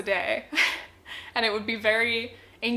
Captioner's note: chuckles